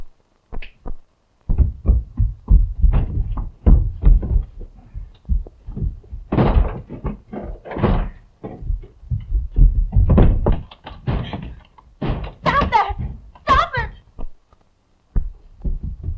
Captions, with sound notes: (furniture clattering) - Stop that. Stop it.